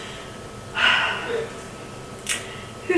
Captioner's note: sigh